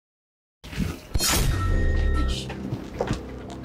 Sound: door open

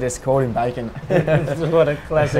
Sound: laughs

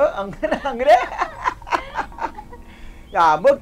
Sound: both laughing

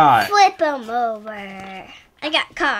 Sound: voiceover

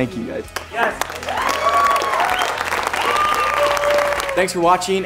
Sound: cheering

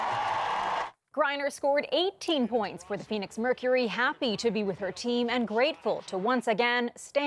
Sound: cheering and applause

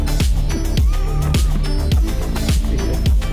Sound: laughing

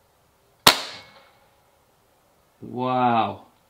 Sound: gun fires

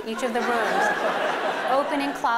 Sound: laughter

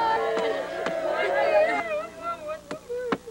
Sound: tapping

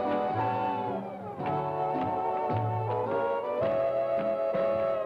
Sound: shoes tapping

